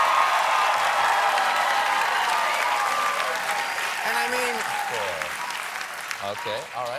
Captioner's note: cheers and applause